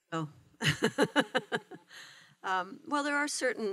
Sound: laughter

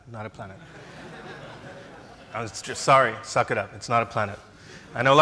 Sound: laughs

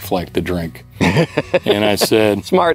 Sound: laughs

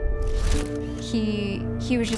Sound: picture clicks

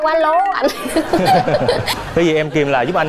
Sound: laugh

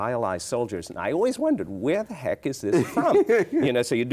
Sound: chuckles

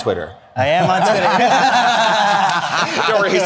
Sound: group laughing

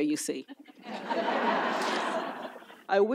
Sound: audience laughs

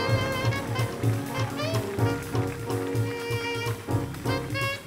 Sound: audience applauds; upbeat jazz music

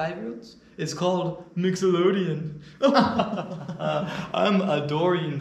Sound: pretentious laughter

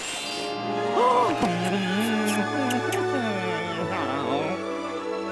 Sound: smooching; gasps

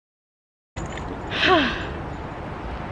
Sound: sigh

